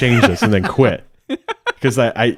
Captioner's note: laughing